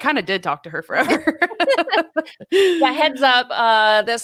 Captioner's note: laugh